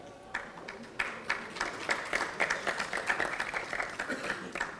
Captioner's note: audience applauding